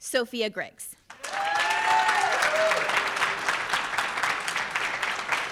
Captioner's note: audience applauds